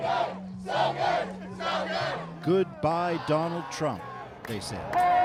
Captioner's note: chanting